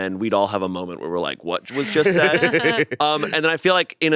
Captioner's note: both laughing